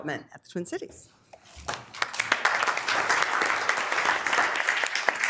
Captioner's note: members applauding